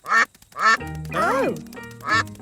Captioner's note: quacking